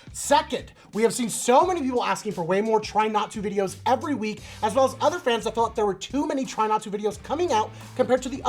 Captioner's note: none